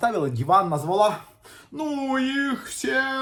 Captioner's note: none